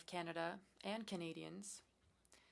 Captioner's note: speaking french